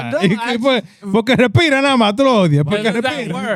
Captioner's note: speaking Spanish